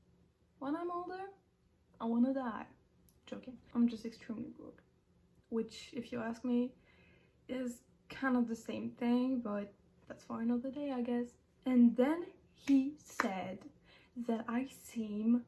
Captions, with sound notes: when I'm older? I wanna die joking...? I'm just extemely broke Which if you ask me is kind of the same thing but-- That's for another day i guess And then he *clap* said *clap* That I seem